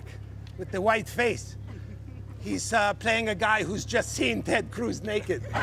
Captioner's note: laughter